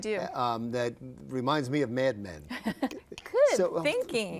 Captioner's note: laughs